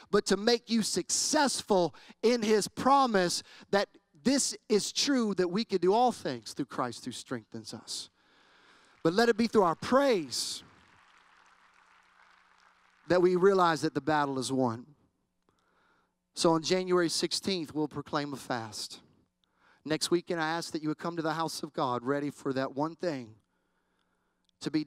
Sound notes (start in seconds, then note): 8.5 applause